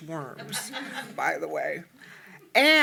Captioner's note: audience laughing